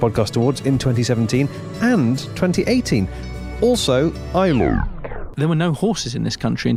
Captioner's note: static, distortion